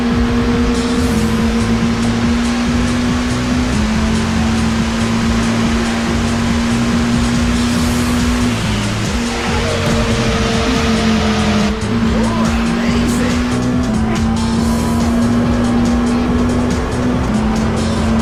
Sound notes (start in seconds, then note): 0.0 car tires skidding; 0.3 car engines roaring; 9.5 car tires skidding; 13.5 car engines roaring